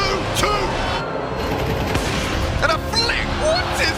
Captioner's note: gun firing